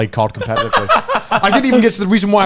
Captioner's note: laughing